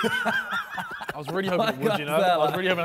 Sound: men laughing

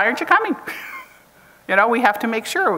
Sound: chuckles

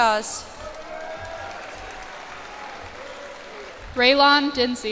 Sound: cheers and applause

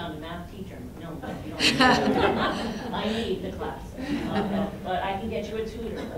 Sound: laughter

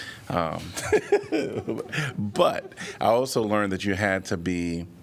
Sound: laughter

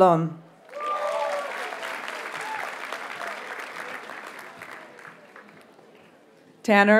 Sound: audience cheers and applauds

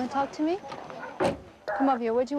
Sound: door shutting

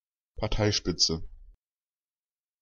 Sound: fast Pronunciation

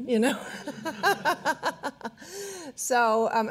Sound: all laughing

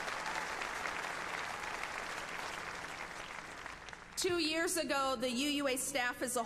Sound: applause

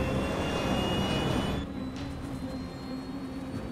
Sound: engine humming

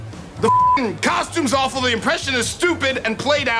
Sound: beep

